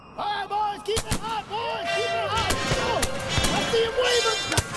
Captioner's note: gunfire & military orders